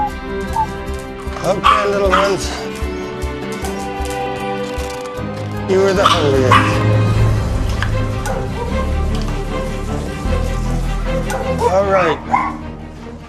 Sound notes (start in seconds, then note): 0.2 dog whimpering; 6.0 dog barking